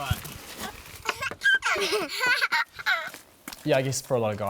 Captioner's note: children giggle